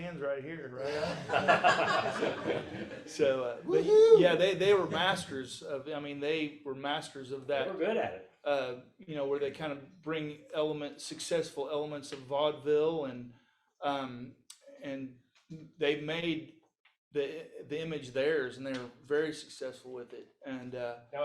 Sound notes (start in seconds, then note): 0.8 audience laughs